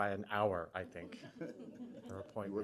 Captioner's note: laughter